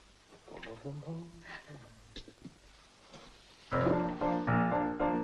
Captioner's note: Dick vocalizing; upbeat piano music